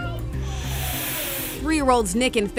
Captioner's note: dad gasps